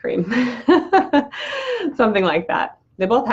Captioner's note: laughs